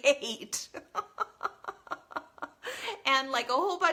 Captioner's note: laughs